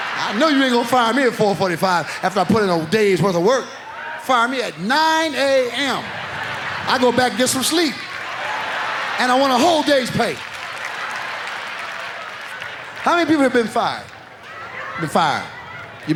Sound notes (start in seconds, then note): 5.3 audience laughs; 10.7 audience laughs